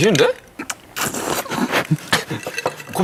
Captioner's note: slurp